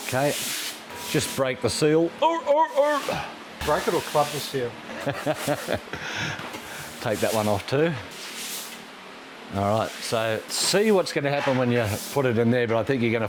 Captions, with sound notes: Okay, just break the seal. Oh, oh, oh. Break it or club the seal. (laughing) Take that one off too. All right, so see what's gonna happen when you put it in there, but I think you're